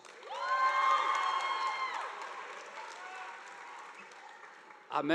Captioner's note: audience applauding